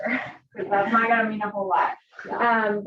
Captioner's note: she laughs